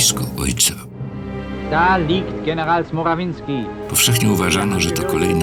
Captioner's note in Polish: po niemiecku